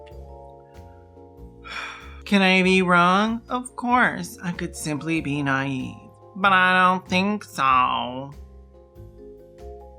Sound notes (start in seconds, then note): 2.2 mocking tone